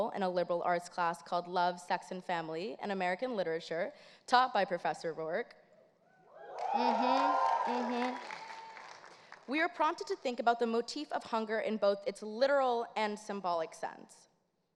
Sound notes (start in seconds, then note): 6.4 audience cheers